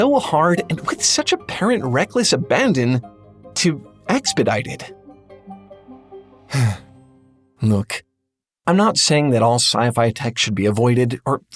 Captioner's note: sigh